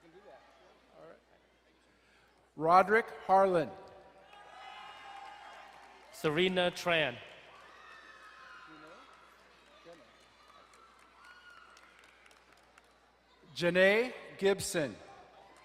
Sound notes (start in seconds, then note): 4.2 crowd cheering and applauding; 7.5 crowd cheering; 15.3 crowd cheering and applauding